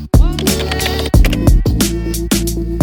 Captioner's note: upbeat music; keyboard typing; upbeat music